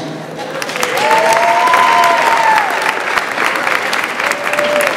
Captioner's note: audience applauds